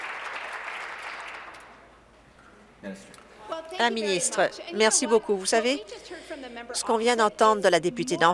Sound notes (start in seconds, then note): 0.0 some Applause